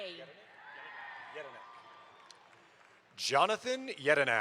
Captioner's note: audience applauds